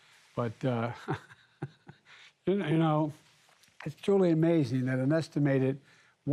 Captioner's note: laughs